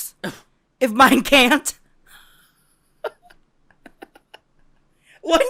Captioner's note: giggles